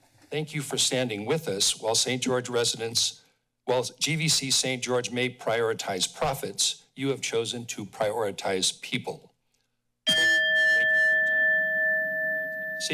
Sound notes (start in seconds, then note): 10.0 bell